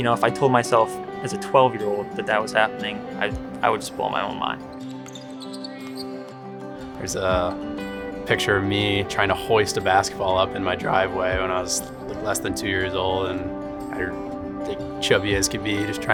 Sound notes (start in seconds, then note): 4.8 balls bouncing; 4.8 shoes squeaking